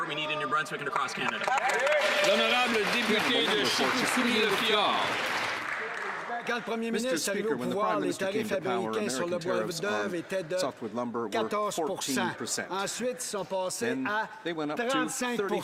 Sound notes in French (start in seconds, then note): 8.6 voix de l'interprète